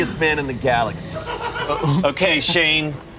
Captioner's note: crew laughs